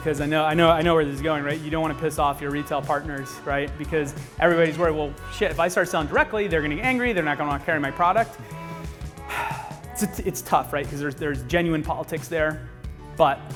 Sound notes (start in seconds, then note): 8.4 sighs